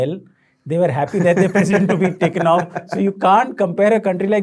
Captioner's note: laughing